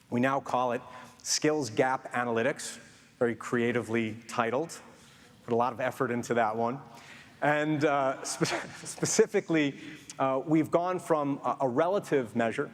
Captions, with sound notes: We now call it skills gap analytics, very creatively titled. Put a lot of effort into that one. (Chuckles) And specifically we've gone from a relative measure